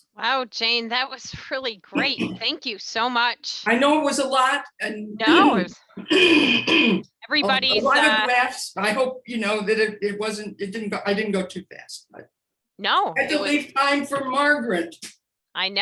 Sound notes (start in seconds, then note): 6.0 clears throat